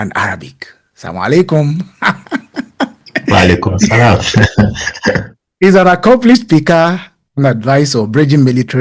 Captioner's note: speaking in foreign language